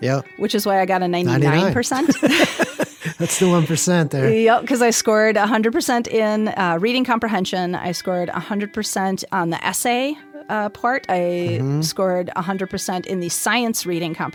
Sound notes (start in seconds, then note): 4.5 laughs